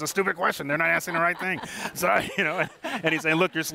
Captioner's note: laughs